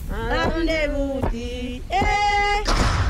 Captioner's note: gunshot; singing continues